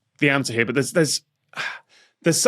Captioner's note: sighs